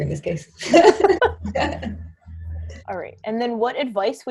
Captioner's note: laughs